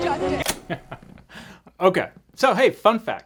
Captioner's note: chuckles